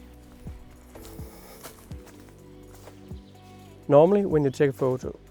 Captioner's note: foliage crunch